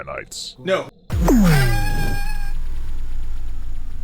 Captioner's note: scream